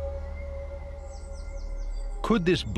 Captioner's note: birds chirping